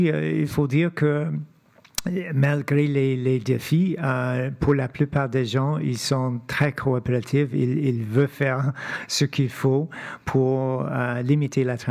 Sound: speaking French

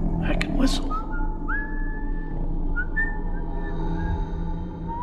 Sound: whistling

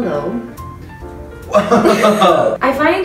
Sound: laughs

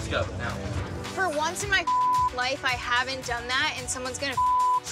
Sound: beep

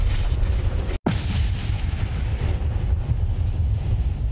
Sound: electricity crackles; explosion

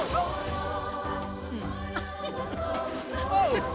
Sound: laughing

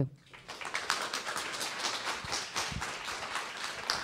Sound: applause

